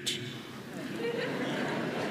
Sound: laughter

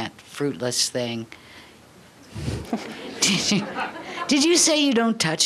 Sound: laughter

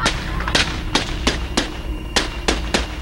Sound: gunshots

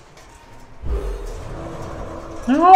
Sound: howling wind

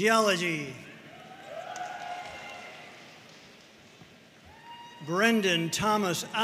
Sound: audience cheering and applauding

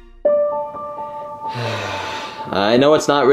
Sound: solemn music; Luigi sighing

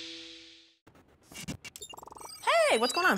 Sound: beeping noises

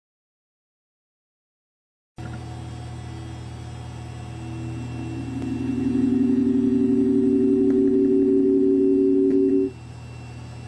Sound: sound of webcam

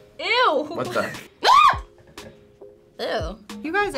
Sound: screams

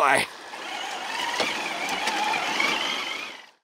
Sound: tires squealing

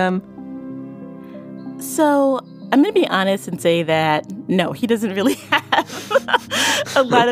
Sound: both laugh

